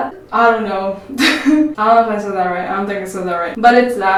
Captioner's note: laughs